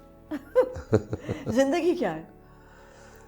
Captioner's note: laughs